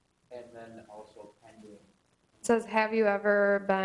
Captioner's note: man speaking off camera